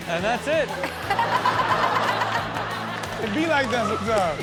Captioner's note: audience laughs